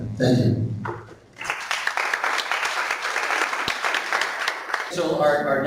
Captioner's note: clapping